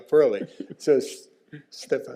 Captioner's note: chuckles